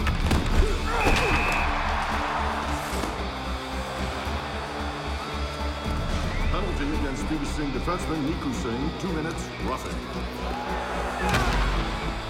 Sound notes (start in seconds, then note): 0.8 whistling; 10.4 Nikku shouting